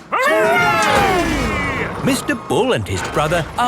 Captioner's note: all cheering